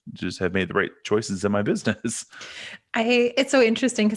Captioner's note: chuckles